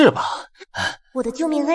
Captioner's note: sigh